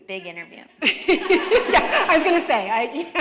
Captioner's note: laughter